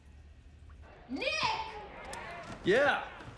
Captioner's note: yells